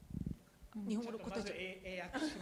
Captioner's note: speaking japanese